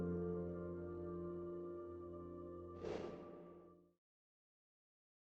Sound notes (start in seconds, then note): 2.8 air puffs